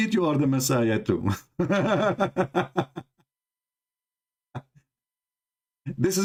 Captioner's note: Ketawa